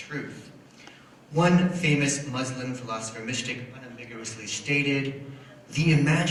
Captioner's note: foreign language